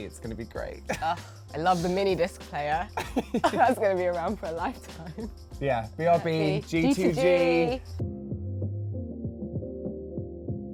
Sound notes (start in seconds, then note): 1.3 laughs; 8.0 soft music